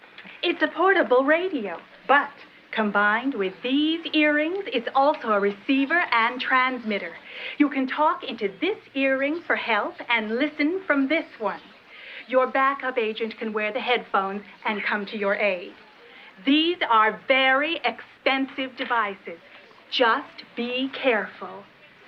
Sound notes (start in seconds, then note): none